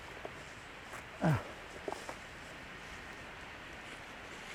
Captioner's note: Mercer grunts